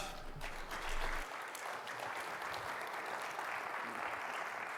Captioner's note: audience applauding